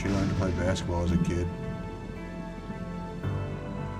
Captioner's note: thunder, rain